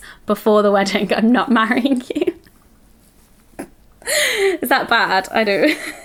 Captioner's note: laughs